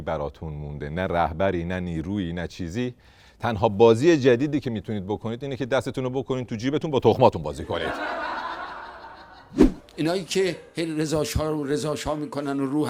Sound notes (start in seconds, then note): 10.0 laughter